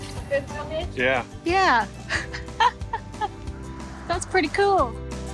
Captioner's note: chuckling